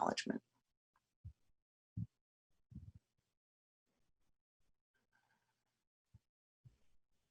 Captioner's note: silence